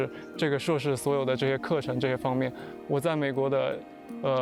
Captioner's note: speaking chinese